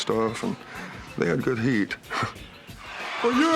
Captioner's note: laughs